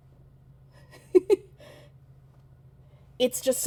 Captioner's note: laughing